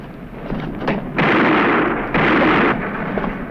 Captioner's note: gunshots